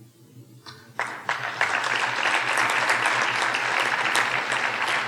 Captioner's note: audience applauding